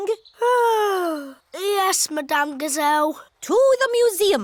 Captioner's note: yawns